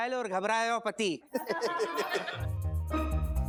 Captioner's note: laughing